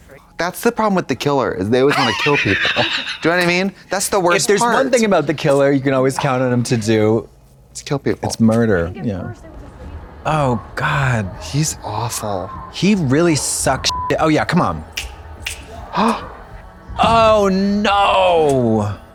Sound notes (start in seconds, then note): 3.1 Katya hisses; 13.9 beep; 15.0 Katya snaps; 15.9 Trixie gasps